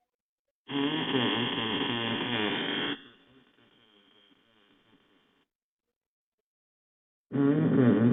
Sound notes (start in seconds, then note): 0.7 playback of distorted sounds